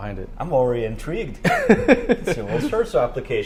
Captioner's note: laughs